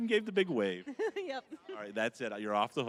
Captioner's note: chuckling